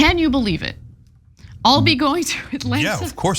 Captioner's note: laugh